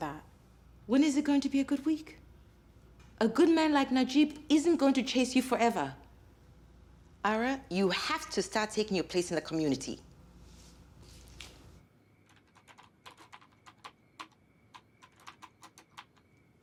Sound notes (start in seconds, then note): 12.3 keyboard clacking